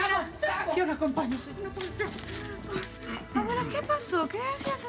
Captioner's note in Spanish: Hablan al unísono